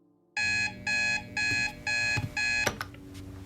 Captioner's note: alarm beeping